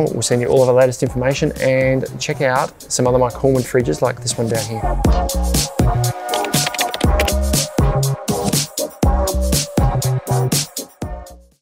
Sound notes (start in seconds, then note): 4.9 upbeat music; 6.2 keyboard clucking; 8.6 upbeat music